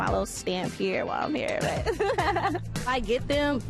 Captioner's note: laughs